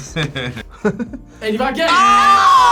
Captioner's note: laughs